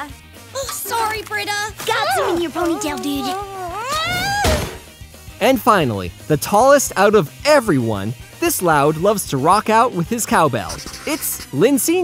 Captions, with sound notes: Sorry, Brita. Got some in your ponytail, dude. [shrieking] And finally, the tallest out of everyone. This Loud loves to rock out with his cow bell. It's Lynn Sr.